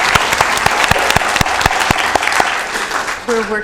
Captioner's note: applause